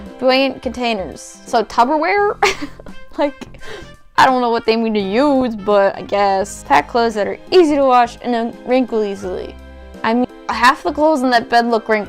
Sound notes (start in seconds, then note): 2.4 giggles